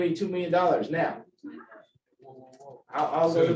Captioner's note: laughter